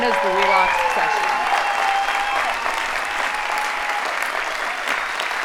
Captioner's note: audience applauding